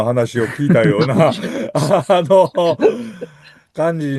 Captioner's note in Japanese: 笑い